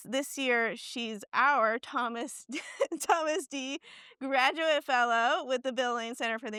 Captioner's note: laughs